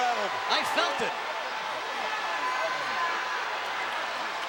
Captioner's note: crowd yelling